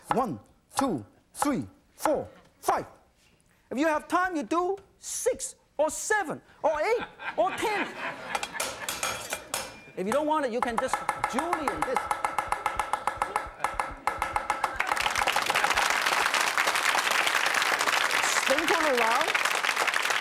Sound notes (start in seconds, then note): 6.8 audience laughing; 11.1 clanking; 13.7 audience clapping